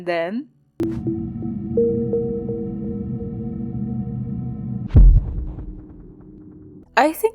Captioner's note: time travel thud